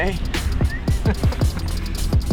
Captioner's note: laughing